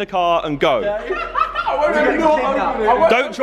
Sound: laughing

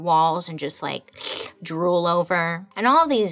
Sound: imitates drooling

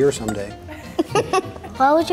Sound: laughing

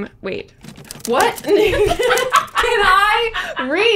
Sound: laughs hysterically

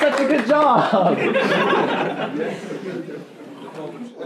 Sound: laughing

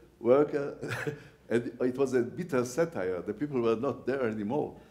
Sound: laughs

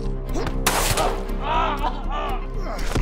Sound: gunshot

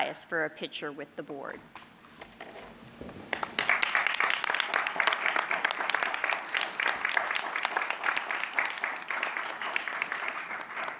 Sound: applause

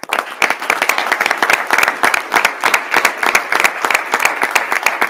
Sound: audience applauding

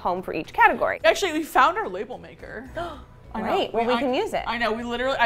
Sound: gasps

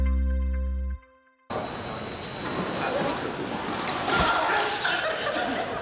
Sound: melodious instrumental music; school bell rings; laughter

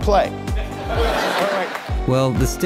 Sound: studio audience laughter

